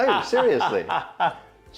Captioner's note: laughs